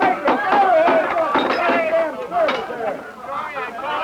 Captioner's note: banging tables; glass breaking; loud raucous talking